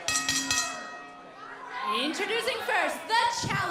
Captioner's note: bell ringing